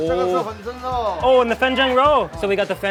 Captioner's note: man speaks in a foreign language; speaks in a foreign language